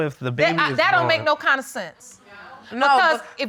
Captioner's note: stammers